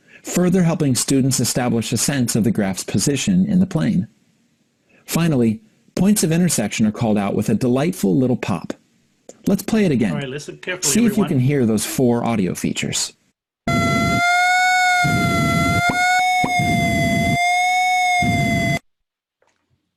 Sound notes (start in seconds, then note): 13.7 high Pitched Whining; 14.8 pop Pop; 17.5 high Pitched Whining